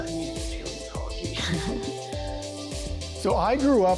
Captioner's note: laughing